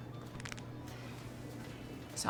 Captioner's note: neck cracking